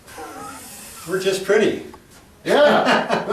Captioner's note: laughs